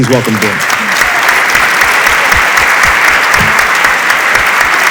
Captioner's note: audience applauds